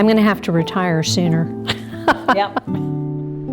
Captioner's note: chuckles